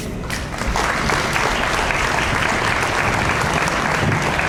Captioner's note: audience applauds